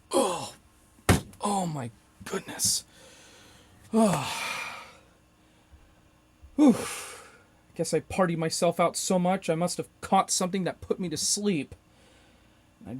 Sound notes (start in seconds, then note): 3.9 sigh